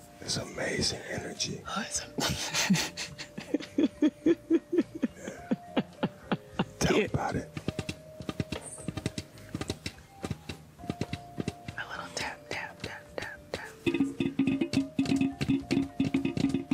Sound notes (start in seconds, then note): 2.2 laughing